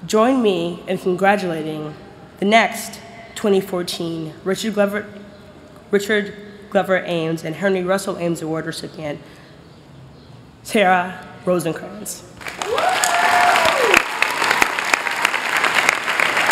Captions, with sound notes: join me in congratulating the next 2014 Richard Glover Ames and Henry Russell Ames Award recipient, Sarah Rosenkrantz. [APPLAUSE]